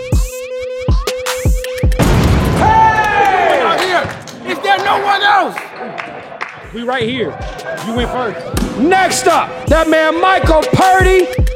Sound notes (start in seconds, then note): 2.0 dunk sound; 2.4 cheers